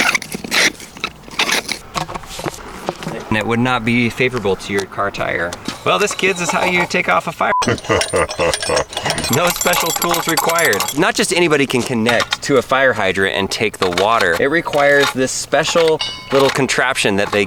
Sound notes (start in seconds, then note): 0.0 hose squeaking; 7.4 beep; 7.6 ominous laughing